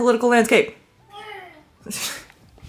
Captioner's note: meow